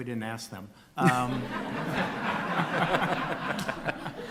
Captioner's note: laughter